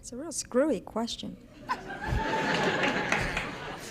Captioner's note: laughter